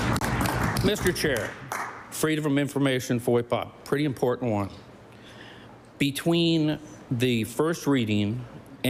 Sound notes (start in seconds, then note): 0.0 applause